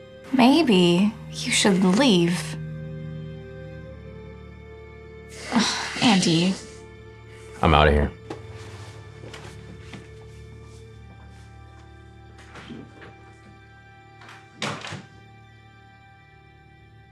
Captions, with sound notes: Maybe, you should leave. (tense music) (sighs) Andy... I'm out of here. (door opens) (door closes)